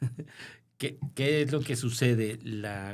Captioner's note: laughter